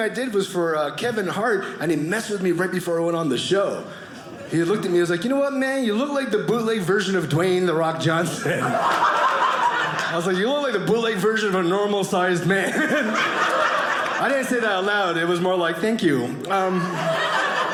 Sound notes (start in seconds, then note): 12.6 audience laughing; 16.7 audience laughing